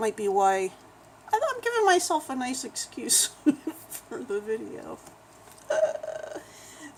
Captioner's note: laughs